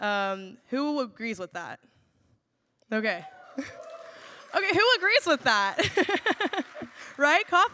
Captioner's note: laughs